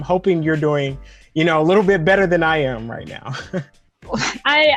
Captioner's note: chuckles